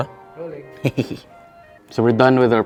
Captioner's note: giggles